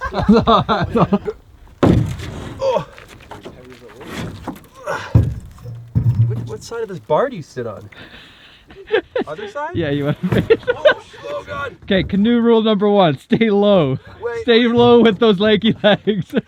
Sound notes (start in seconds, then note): 0.0 laughing; 2.6 grunting; 7.8 laughing